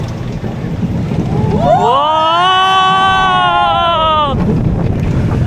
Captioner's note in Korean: 와아아아아아아아아아